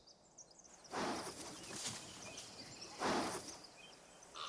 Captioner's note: snorts